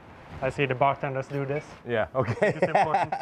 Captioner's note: laughing